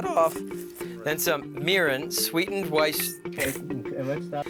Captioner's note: laughs